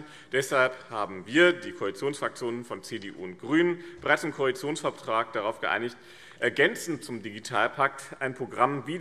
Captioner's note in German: none